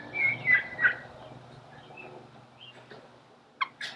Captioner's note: birds chirping